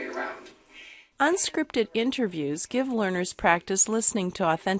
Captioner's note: voiceover